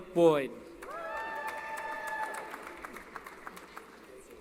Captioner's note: applause & Cheering